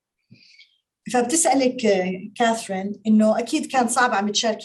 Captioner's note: speaking Arabic